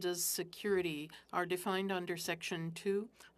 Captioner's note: speaking French